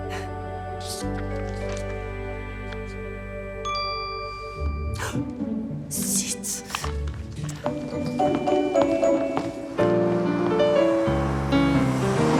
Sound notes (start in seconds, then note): 3.6 phone chimes; 10.0 jazzy piano music